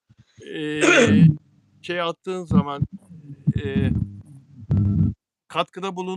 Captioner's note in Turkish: boğazını temizler